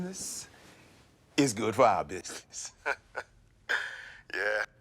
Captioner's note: laughs